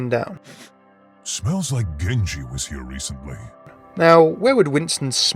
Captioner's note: voiceover